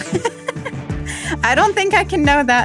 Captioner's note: laughs